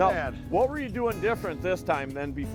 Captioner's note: voiceover